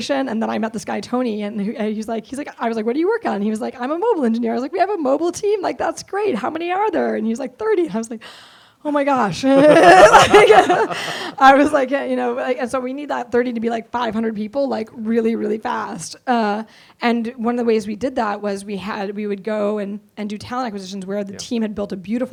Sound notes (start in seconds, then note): 9.2 laughs